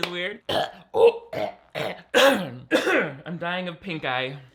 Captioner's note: coughing